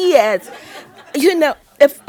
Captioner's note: audience laughing